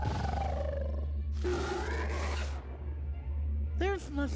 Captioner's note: growling; roaring